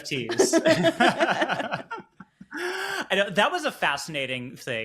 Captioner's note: people laughing